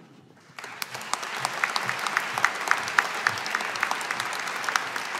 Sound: audience applauding

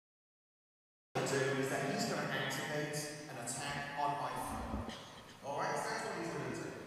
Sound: audio clip of previous segment of speech plays

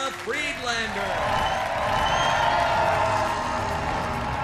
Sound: audience cheers

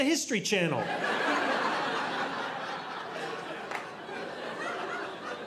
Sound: audience laughing

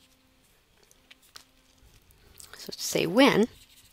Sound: pause in Lecture

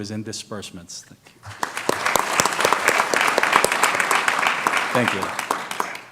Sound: applause

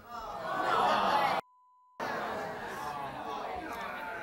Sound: audience shouting

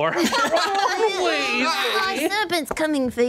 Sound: laughing

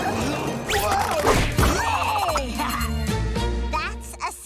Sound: chuckles

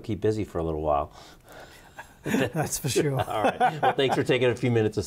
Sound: laughs

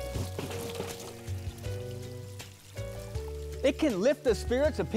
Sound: bucket rattling

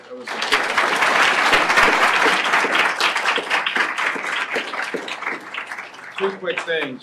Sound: applause

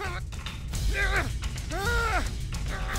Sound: grunting

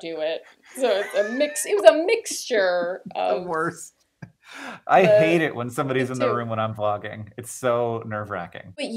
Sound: laughter

